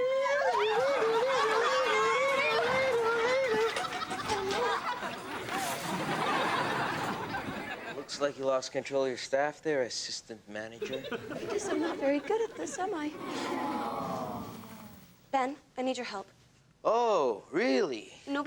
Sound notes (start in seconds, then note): 0.0 Alex screeching; 0.3 audience laughs; 6.1 audience laughs; 13.8 audience awes